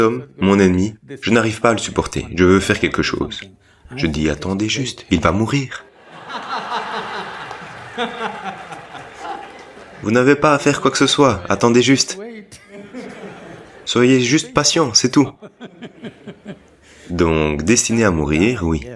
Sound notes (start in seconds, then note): 5.8 laughs